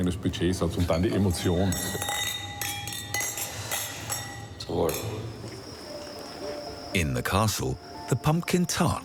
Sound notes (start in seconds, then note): 0.8 glass clinking